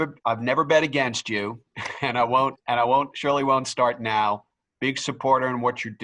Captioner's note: laugh